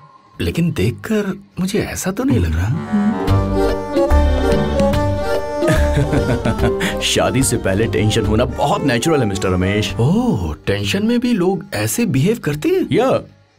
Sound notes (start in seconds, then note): 5.2 laughing